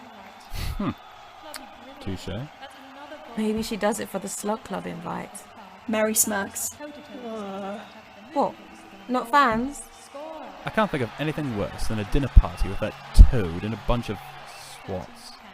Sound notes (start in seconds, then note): 0.1 Sirius laughs. Crowd and commentary continues on in the background; 7.1 James and Sirius groan